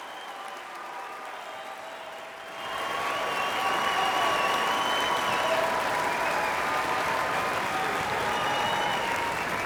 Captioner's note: audience applauding